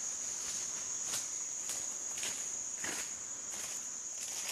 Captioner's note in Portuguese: Passos sobre as folhas secas